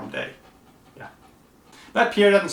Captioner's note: dog panting